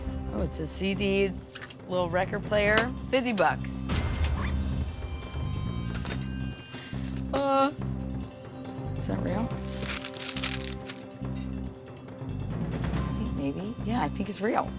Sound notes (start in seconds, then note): 5.4 cash register dings